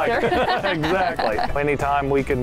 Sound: both laugh

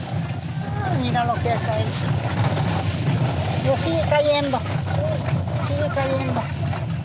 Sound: speaking in foreign language

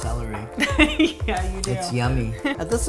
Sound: laughing

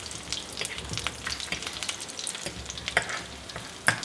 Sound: light sizzling

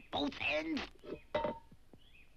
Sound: can clanks

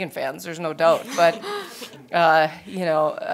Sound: laughing

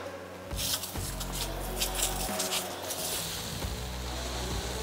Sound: deer food clattering

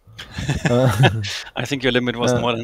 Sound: laugh

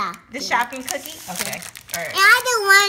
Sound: voiceover

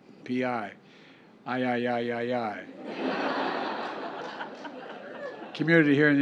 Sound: laughter

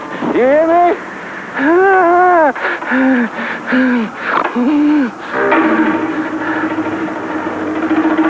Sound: panting

